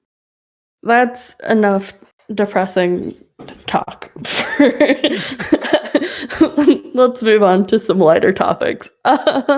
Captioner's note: laughs